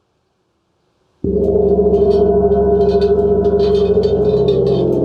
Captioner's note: gong sound